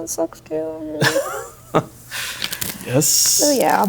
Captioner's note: laughing